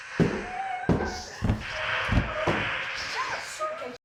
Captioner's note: Pepper moaning